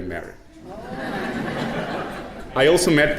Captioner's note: audience chuckling